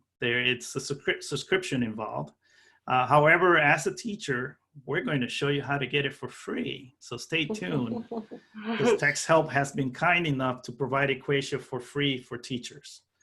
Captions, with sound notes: There is a subscription involved. However, as the teacher, we're going to show you how to get it for free. So stay tuned [laughter] because text help has been kind enough to provide EquatIO for free for teachers. So --